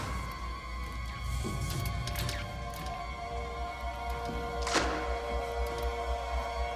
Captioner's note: electricity crackling; eerie music